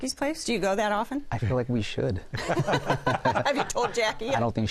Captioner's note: laughter